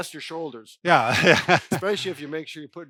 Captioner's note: laughs